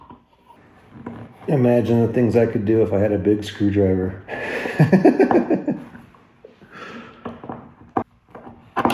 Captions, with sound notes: Imagine the things I could do if I had a big screwdriver. (laughs)